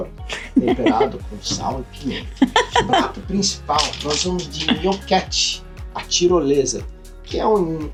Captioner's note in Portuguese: risadas